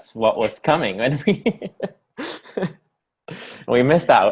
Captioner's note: laughs